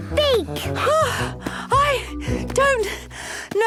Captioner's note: panting